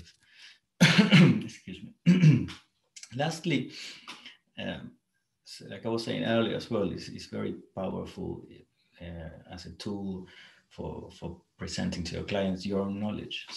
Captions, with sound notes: (coughs) Excuse me, lastly, like I was saying earlier, as well as it's very powerful as a tool for presenting to your clients, your knowledge.